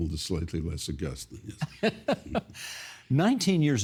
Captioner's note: laughing